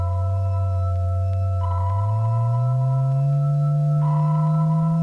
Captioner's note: low humming tone